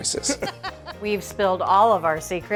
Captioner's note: chuckle